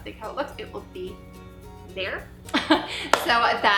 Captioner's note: laughs